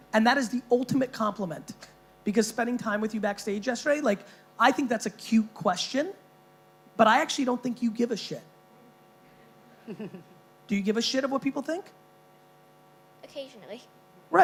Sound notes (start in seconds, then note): 9.8 chuckling